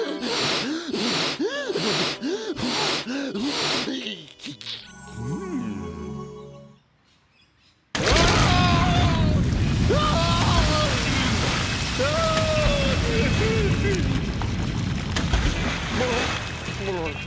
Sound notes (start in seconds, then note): 8.0 screams